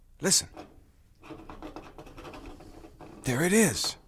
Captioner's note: rattling continues